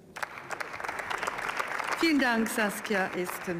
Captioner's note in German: Beifall